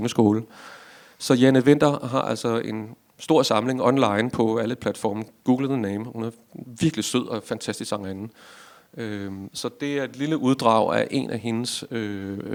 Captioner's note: in Danish